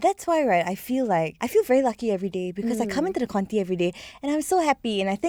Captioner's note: radio